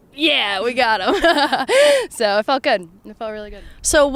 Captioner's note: laughs